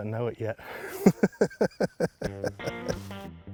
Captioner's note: laughing; upbeat music